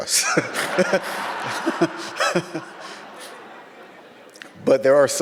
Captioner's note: audience laughs; chuckles